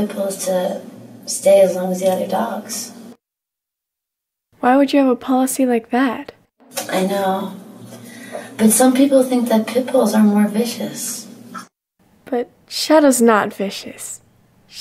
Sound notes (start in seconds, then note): none